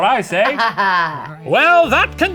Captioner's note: laughs